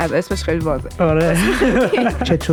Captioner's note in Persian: خنده